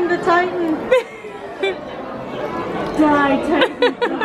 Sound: laughing

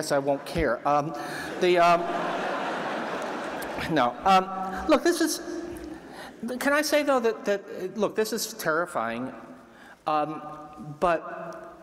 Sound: laughter

